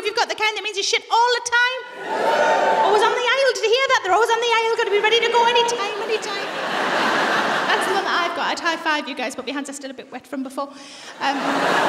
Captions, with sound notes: Whoo if you've got the kind that means you shit all the time. - (MORE PEOPLE WHOOP) - On the aisles. Did you hear that? They're always on the aisles. Got to be ready to go any time. I'd high five you guys but my hands are still a bit wet from before.